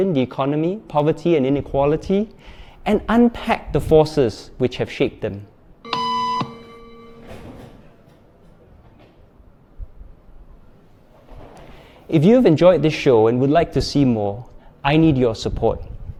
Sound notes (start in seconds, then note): 5.8 beep